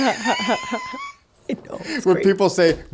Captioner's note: laughing